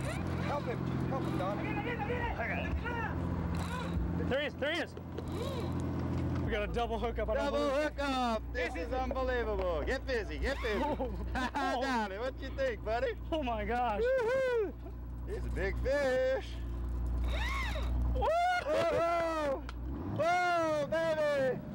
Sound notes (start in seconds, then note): 17.4 reel singing